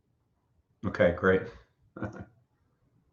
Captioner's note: laughing